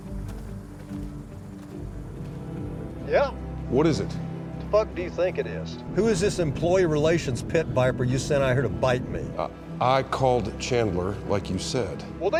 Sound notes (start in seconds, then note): 2.3 on phone; 4.9 on phone